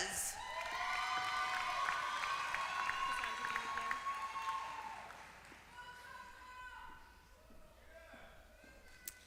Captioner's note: applause